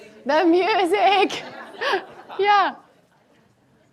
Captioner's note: laughs